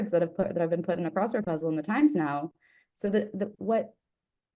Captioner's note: none